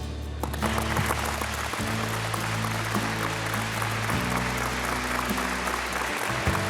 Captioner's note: light acoustic guitar music; audience applauding